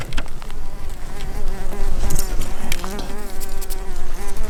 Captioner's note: buzzing flies